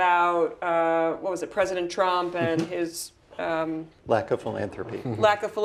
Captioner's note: laugh